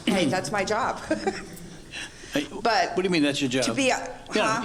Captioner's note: laughs